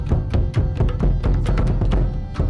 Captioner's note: none